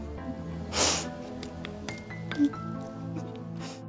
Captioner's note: crying; sniffles